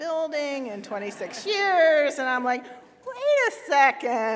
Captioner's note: laughter